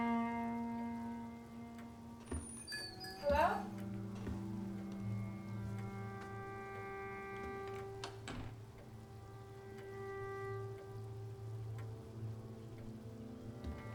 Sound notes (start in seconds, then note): 0.3 somber music continues; 2.6 bells jingle; 10.4 somber music continues